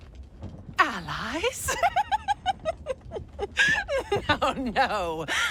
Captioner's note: laughing